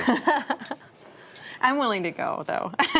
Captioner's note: laughs